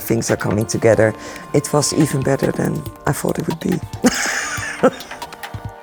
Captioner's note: laughs